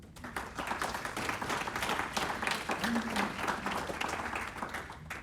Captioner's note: audience Applauding